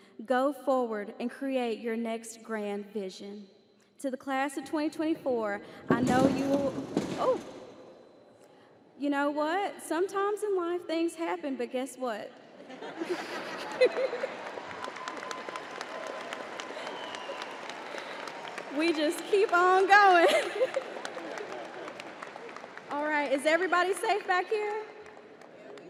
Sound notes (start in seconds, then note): 6.3 backdrop falls; 12.8 crowd laughs; 25.7 crowd